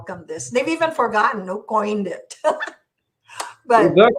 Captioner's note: giggles